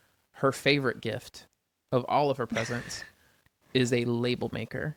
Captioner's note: laughs